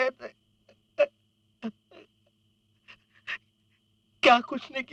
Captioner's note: crying